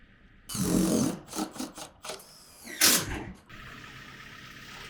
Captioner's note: drill thrumming